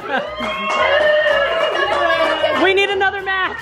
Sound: applauds

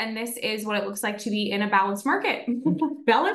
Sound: chuckles

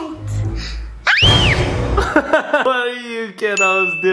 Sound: screams

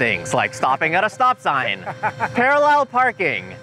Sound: laughing

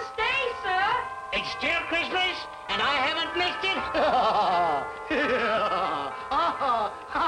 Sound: laughing

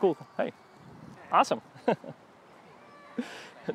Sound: laughs

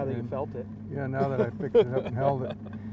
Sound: laughing

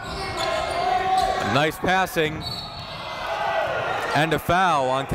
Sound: whistle blows

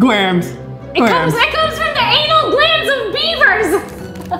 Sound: laughs

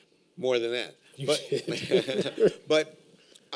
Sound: laughter

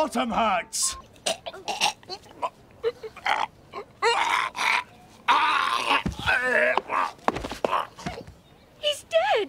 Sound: Matt Baynton making choking noises

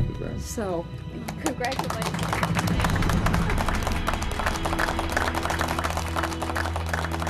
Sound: group applauds

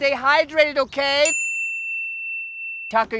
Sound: bell dings

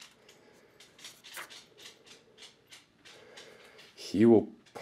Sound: clicking

